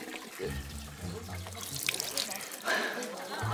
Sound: spilling

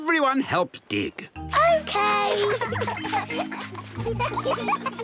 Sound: giggling

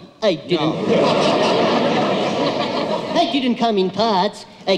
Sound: audience laughs

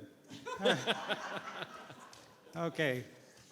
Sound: board members laughing

